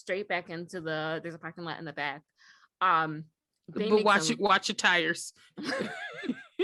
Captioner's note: giggles